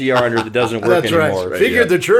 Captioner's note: laughing